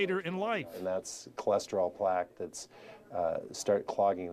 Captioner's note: voiceover